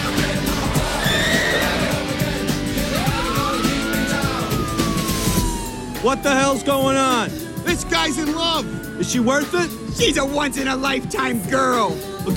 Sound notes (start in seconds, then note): 2.2 police siren